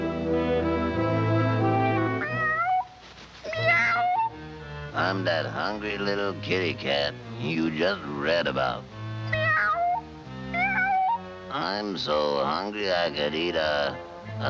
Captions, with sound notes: (cat meowing) - I'm that hungry little kitty cat you just read about. (cat meowing) I'm so hungry, I could eat a...